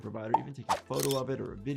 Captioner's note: shutter shutting